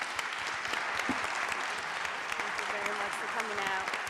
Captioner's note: audience applauding